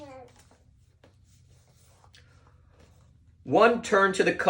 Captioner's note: page turning; child gurgling